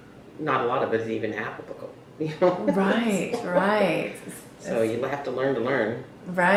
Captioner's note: laughs